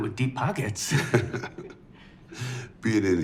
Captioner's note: Dwight laughs